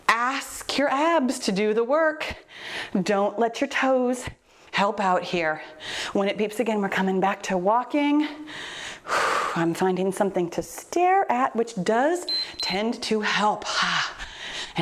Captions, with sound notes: Ask your abs to do the work. Don't let your toes help out here. When it beeps again, we're coming back to walking. (breathing deeply) I'm finding something to stare at, which does tend to help. (timer beeps)